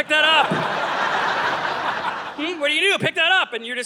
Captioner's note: audience laughing